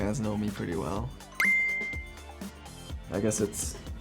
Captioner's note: beeps